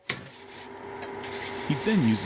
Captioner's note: saw buzzing